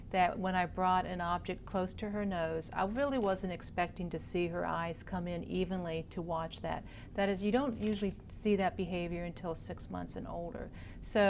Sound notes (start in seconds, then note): none